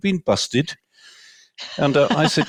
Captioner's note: laughter